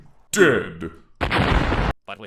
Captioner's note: explosion